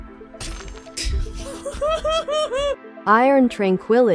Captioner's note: laughing in Pain